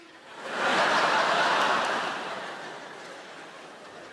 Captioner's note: audience laughing